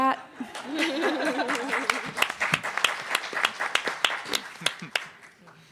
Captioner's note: audience applauding